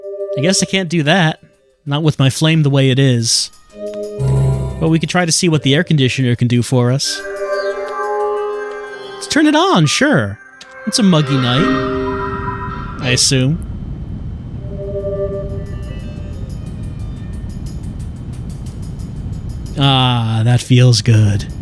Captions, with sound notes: I guess I can't do that. Not with my flame the way it is. We can try to see what the air conditioner can do for us. Let's turn it on, sure! It's a muggy night. [musical sting of interaction] I assume. [air conditioner blowing] Aaaah, that feels good.